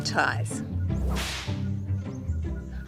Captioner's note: whip cracks